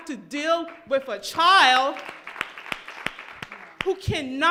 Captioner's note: crowd applauds